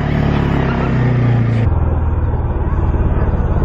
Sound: motor revving

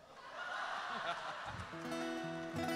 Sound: audience laughing; guitar strumming

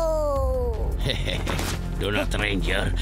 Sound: screams; laughing

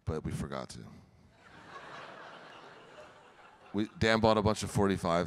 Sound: audience laughing

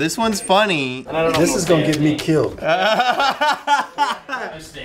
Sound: laughter

